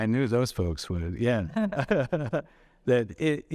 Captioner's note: chuckling